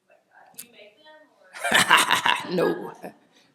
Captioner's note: laughs